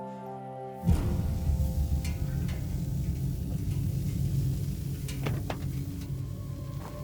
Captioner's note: gentle music; intense music; car hissing